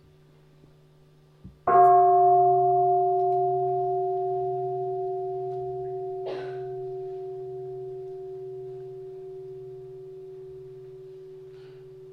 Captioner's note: the sound of the bell